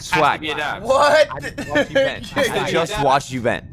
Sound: laughs

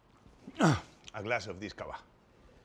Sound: throat clears

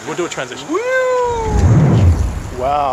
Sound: silly sound effect

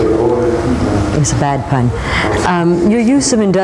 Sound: laughs

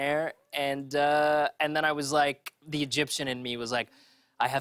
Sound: Egyptian accent

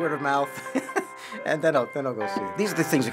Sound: laughing

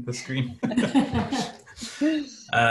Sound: laughter

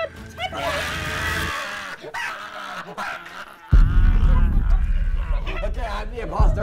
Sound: screaming

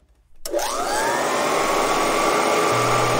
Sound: Kirby Model 1R Whirring

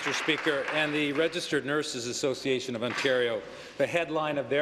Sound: applause

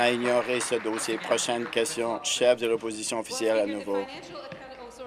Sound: applause

